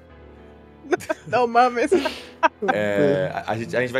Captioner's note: laughs